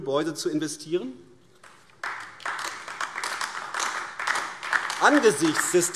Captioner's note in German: Beifall AfD